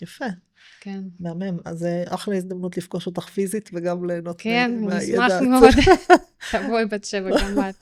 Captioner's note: laughter